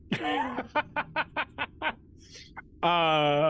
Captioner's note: Omega laughs